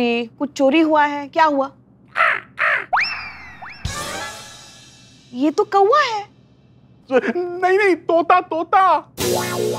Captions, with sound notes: Were you robbed? What happened? [crow cawing] This is a crow. No. It's a parrot.